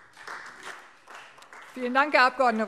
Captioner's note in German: Beifall Freie Demokraten